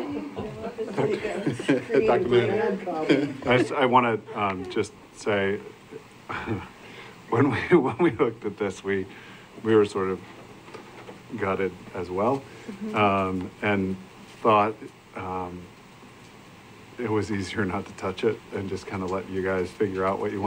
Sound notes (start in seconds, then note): 3.0 laughter